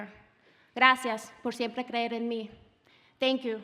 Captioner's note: speaking Spanish